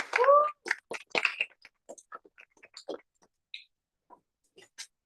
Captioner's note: applause